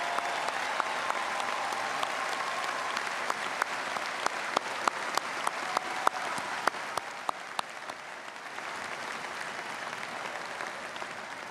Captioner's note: applause